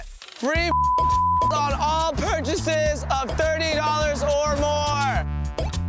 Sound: beep

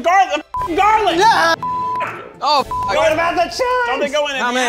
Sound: beep

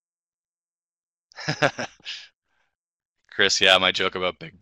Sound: chuckles

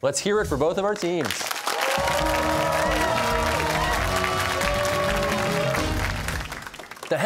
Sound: cheers and applause

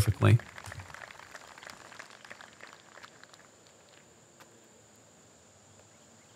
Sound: applause

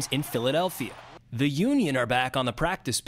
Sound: cheers and applause

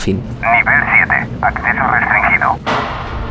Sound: computer voice

